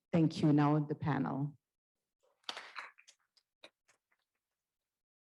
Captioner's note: applause